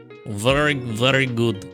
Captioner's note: speaking in foreign language